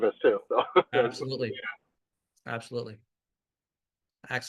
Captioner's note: laughs